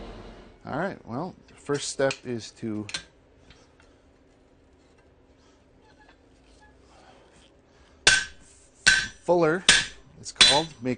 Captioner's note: hammering